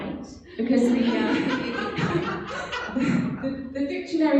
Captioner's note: laughing